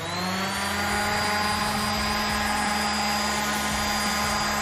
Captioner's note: sander buzzing